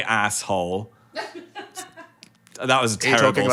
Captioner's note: crew member laughs